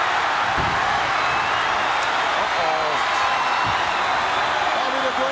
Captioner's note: audience cheering